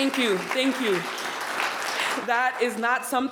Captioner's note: attendees applauding